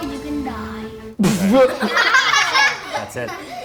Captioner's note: laughter